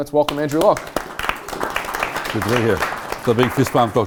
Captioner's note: clapping